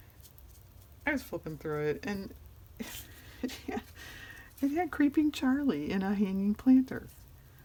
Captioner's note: laughs